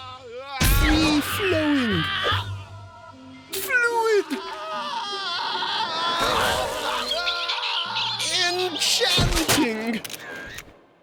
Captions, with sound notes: FREE-FLOWING. FLUID. (screaming) (chicks screeching) ENCHANTING.